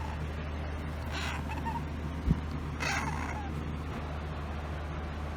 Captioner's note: Caprice meows lightly